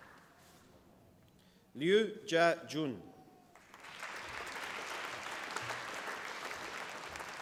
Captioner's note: applause